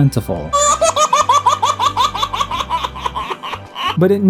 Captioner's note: laughing baby